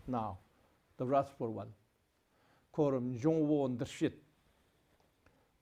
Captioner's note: tibetan